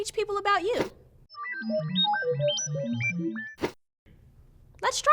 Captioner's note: electronic beeping